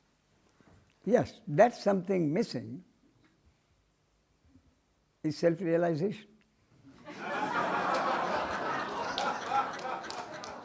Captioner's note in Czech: smích